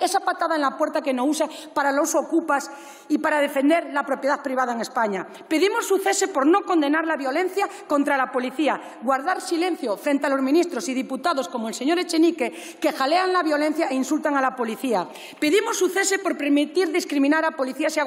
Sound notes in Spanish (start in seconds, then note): none